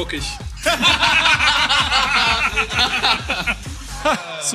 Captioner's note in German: Lachen